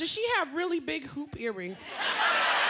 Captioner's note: laughter